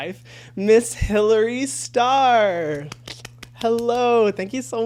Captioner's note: clapping